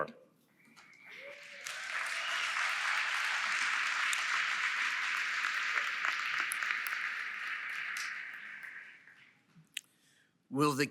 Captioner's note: applause